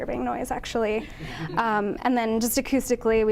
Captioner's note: audience laughing